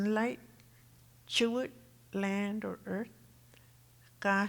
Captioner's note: speaking Tohono O'odham